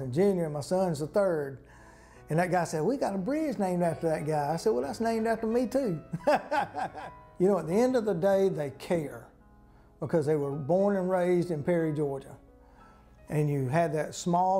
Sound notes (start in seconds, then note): 6.1 laughter